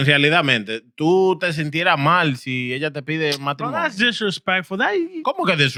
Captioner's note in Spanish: Hablando en idioma extranjero